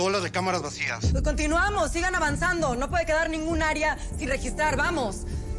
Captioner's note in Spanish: none